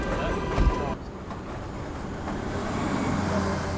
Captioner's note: horn Honking